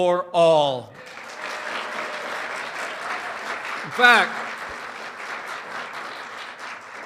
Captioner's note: applause